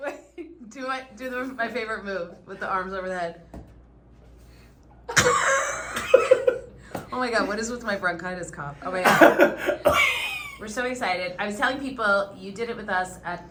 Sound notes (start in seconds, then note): 5.1 laughing